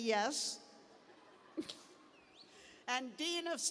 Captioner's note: laughter; cheers